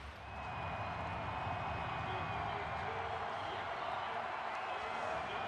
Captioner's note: cheering